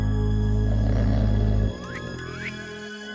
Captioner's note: snoring